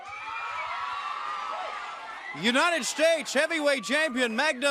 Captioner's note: crowd cheering